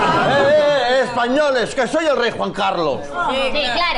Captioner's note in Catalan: Murmulls